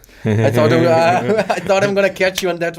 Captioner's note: laughs